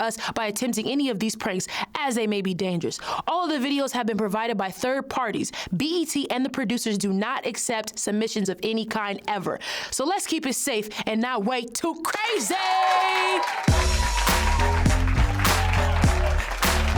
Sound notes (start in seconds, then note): 12.1 crowd cheers and claps; 13.6 bouncy upbeat music